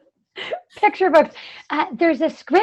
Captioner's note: laughter